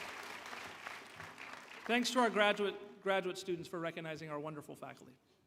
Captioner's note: applause